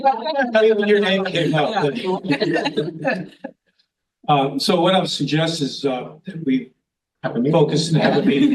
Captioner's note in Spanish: risas